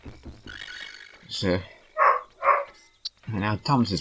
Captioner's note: interrupted by barking